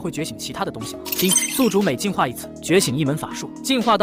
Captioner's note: ding!